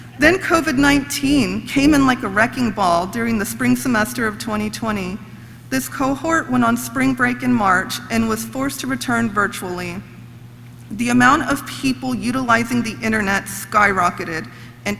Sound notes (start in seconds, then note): none